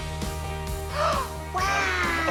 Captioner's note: gasps